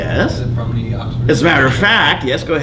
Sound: student off mic

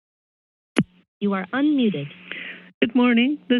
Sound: phone speaking

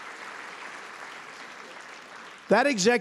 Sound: applause

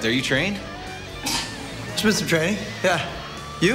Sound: scoffs

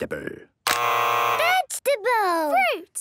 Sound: both buzzing

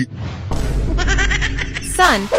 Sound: laughing

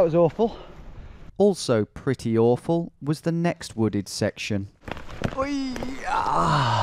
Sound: voiceover

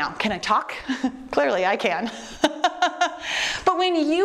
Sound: laughs

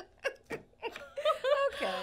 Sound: laughs

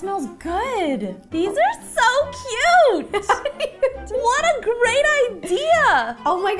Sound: more adorable Ro laughs

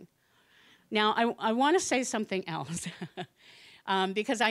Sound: chuckling

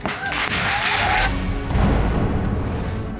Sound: audience applauds

